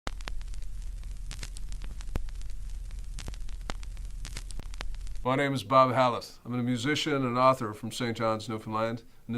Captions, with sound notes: (crackling) - My name's Bob Hallett. I'm a musician, and an author from Saint John's, Newfoundland.